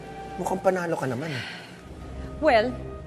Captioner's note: sighs